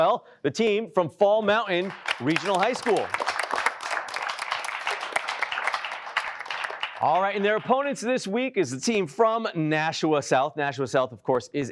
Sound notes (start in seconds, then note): 1.8 applause